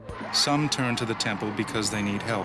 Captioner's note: voiceover